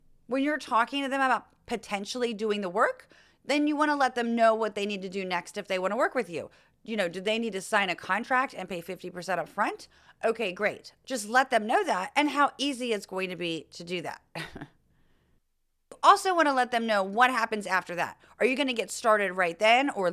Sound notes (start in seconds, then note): 14.4 laugh